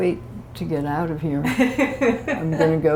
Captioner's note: laughter